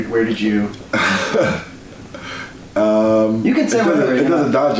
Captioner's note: laughs